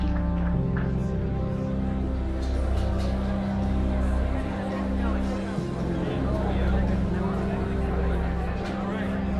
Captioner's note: indistinct chatter